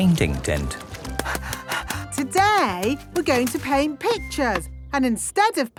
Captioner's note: panting